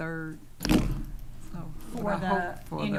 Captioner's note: object clattering